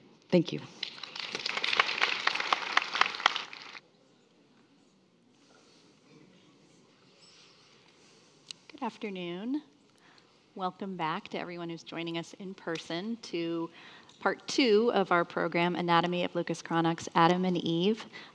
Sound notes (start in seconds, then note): 0.8 attendees applauding